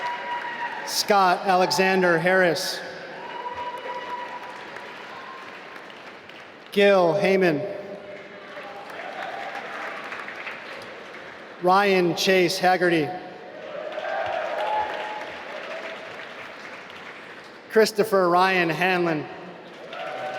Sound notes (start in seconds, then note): 2.9 applause; 13.4 applause